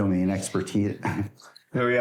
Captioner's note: chuckling